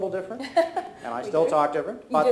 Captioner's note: laughs